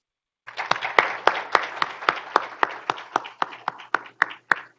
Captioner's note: group applauding